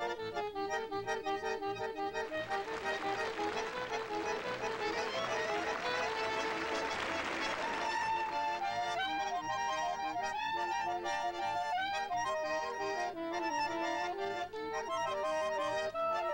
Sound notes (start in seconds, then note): 2.2 applause